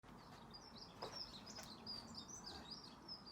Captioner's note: birdsong